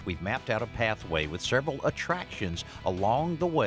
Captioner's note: none